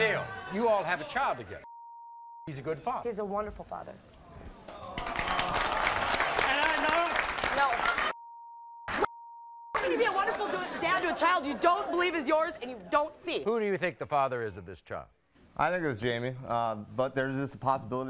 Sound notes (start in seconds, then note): 4.7 audience claps; 8.1 beep